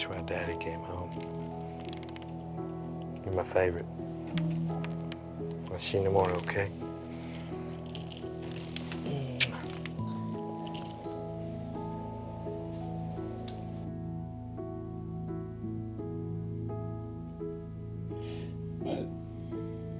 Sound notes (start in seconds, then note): 8.6 smooching; 10.1 soft music